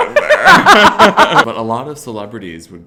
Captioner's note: both laugh